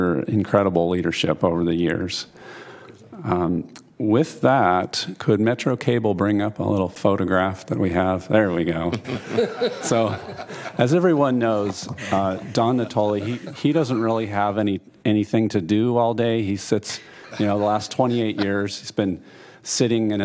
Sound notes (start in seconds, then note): 11.6 laughter